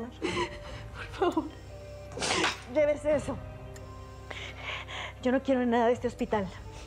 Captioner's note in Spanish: Sollozos